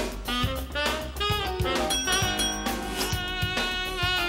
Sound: bell ringing

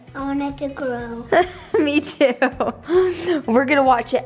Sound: laughing

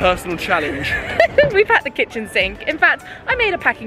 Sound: laughing

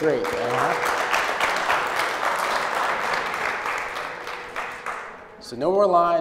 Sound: applause

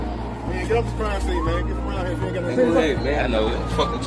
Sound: sirens

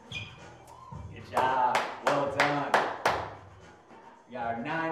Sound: clapping

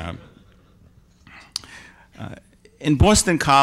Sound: audience laughs

